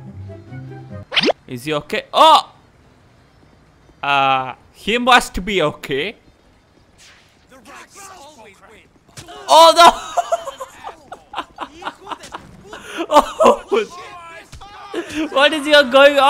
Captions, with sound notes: Is he ok? Uhhhh, he must be ok. Oh NO... *Laughs* What is even going on here!?